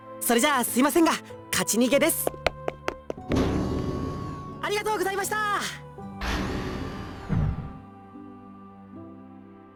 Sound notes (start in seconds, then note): 4.9 shout; 8.7 silence